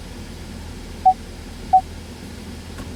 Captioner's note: rear Parking Sensor Beep